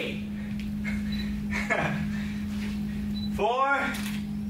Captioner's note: chuckles